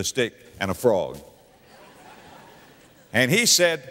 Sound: audience laughter

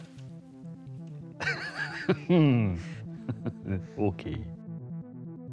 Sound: laughs

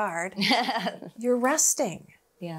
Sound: laughing

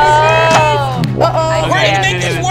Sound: gadget snaps

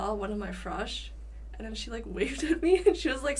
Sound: laughing

